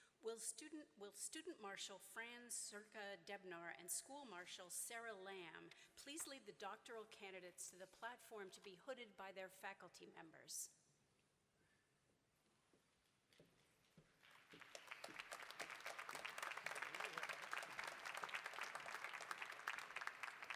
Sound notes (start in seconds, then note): 14.2 applause